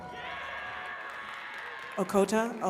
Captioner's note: attendees cheering and clapping